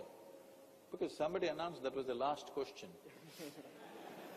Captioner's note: laughter